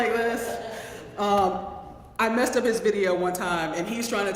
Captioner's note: laugh